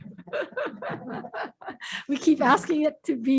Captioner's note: laughing